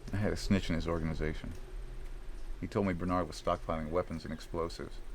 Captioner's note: none